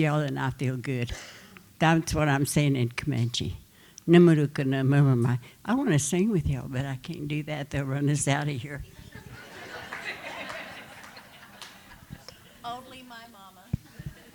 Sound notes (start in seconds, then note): 4.0 speaking Comanche; 8.9 laughter